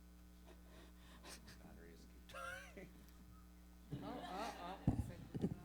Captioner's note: audience chattering